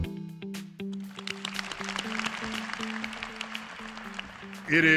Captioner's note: applause